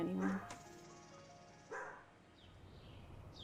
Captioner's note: dog barks; birds sing